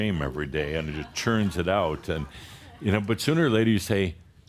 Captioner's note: a few chuckles